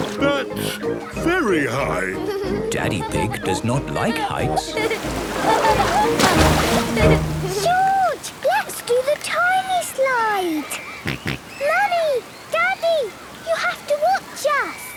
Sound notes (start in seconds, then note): 4.6 laughing; 11.0 George snorts